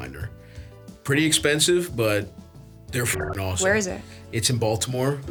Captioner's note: beeps